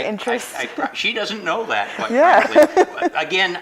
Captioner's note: laughing